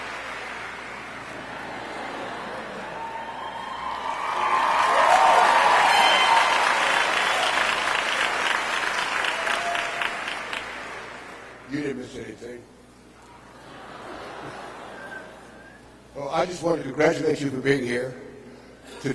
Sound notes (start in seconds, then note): 1.3 people laughing; 13.5 people laughing